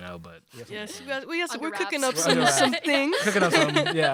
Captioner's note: laughter